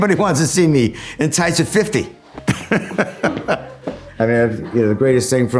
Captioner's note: laughs